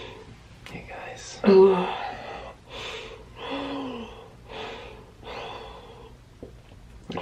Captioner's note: breathing heavily